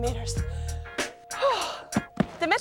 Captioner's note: sighs